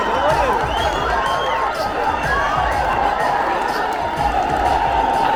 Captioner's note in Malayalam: കരഘോഷം